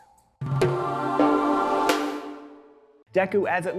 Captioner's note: logo swooshing